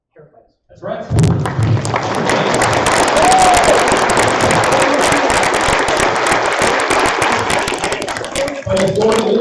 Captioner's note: applause